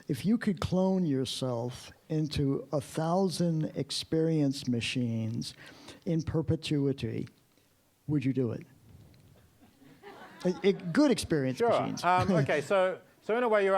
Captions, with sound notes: If you could clone yourself into 1000 experience machines, in perpetuity, would you do it? (audience laughing) Good experience machines. - Sure. Okay, so in a way,